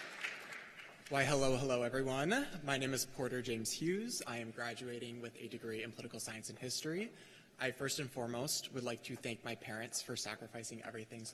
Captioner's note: cheers and applause